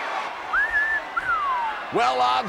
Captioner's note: commentator whistles